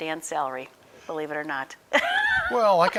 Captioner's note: laughing